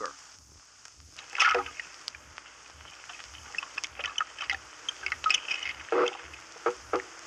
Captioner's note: black Croaker fish sounds